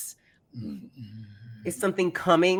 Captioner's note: growling deeply